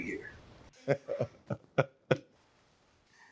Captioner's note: laughs